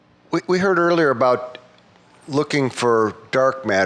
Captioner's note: voiceover